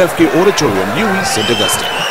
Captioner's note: wild applause and cheering for 22 seconds